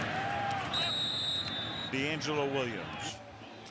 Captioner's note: whistle blowing